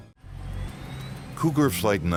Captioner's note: airplane engine roaring